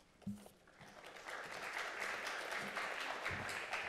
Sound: applause

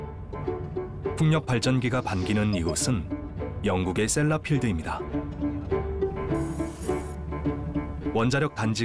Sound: voiceover

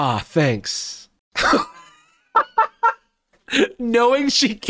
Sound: laughs

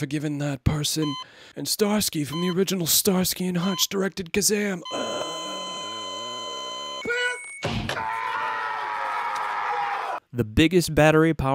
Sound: death rattle

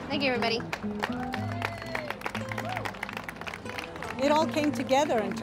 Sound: cheering

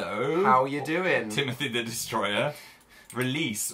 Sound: chuckles

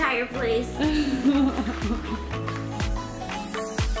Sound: laughing; upbeat music

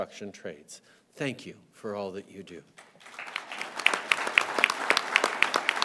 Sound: applause

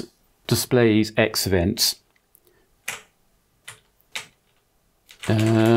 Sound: blank Audio

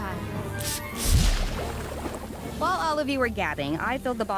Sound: spraying

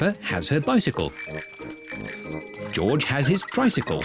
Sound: rings bell

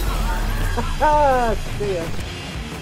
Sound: laughs

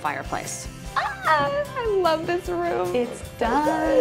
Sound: exclaims

